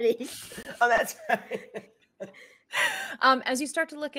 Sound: laughing

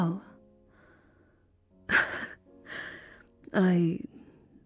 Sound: laughing ruefully

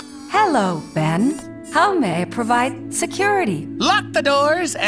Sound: calming female voice

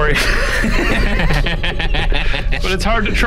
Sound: laughing

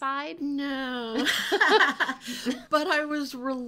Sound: laughing

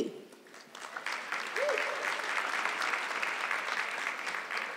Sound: audience clapping

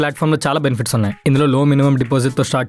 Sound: phone ringing

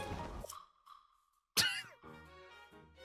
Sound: quiet Laugh

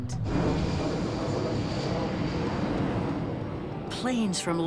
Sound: jet engine roaring

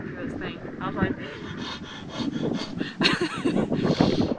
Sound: breathes hard and fast; laughs

